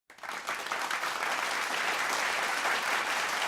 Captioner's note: clapping